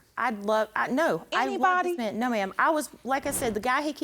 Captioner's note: stammering